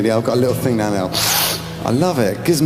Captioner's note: sniffs